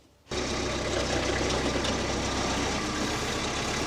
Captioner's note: machinery rumbling